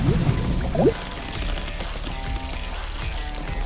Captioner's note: water burbling; laughing; food sizzling; gentle upbeat music